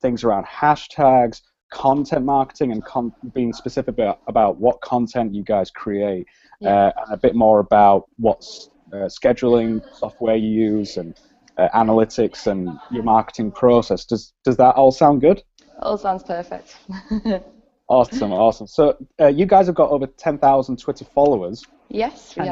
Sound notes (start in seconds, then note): 18.0 laughs